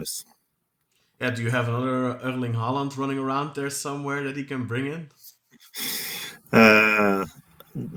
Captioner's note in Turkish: Gülüşmeler